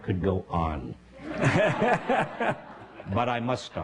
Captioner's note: laughter